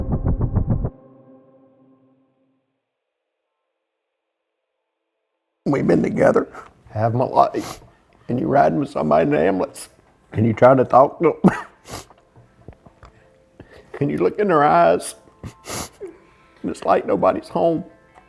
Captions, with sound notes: - We've been together half my life, and you're riding with somebody in an ambulance and you try to talk to 'em (coughs and sniffs) and you look in their eyes (sniffs) and it's like nobody's home.